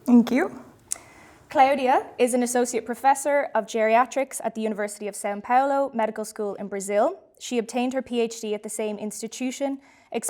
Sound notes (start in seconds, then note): none